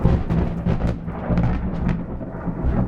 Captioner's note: thunder